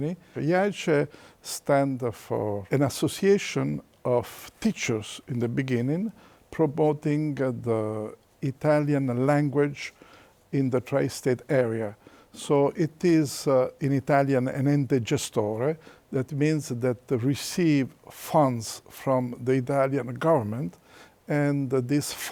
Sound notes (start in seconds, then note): 14.4 in Italian